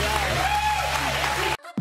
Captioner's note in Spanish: aplausos